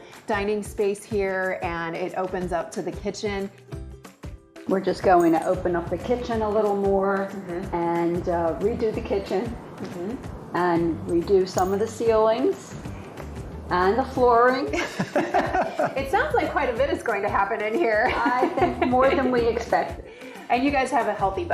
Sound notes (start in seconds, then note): 14.8 laughing